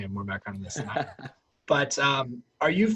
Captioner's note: laughs